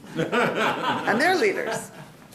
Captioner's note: laughing